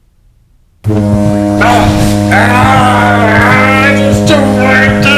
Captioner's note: blaring fog horn, pounding heartbeat, obnoxious dance music